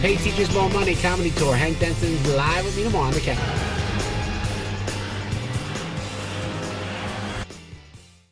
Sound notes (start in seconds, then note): 3.4 crowd cheering; 4.6 rock music